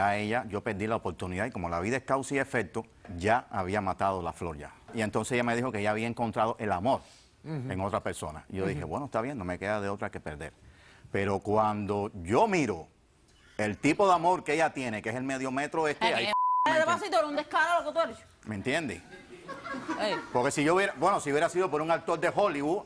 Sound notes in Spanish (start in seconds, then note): 18.3 Bip; 19.0 Risas